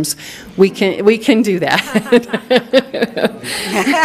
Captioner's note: laughing